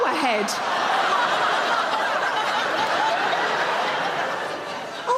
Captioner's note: audience laughing